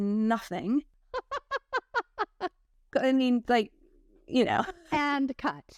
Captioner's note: laughter